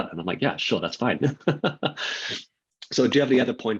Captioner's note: laughing